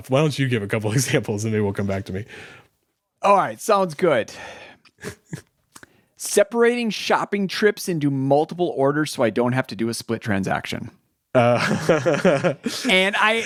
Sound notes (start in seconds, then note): 4.9 chuckles; 11.3 laughing